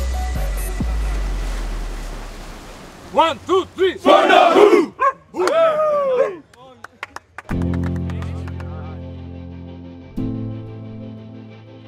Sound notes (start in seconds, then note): 3.2 chanting; 7.5 slow music